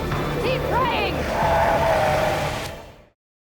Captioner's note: dramatic music; growling